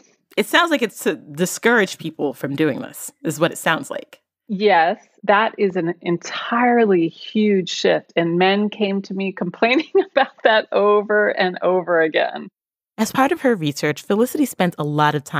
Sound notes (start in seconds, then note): 10.6 laughs